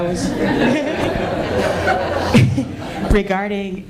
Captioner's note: laughter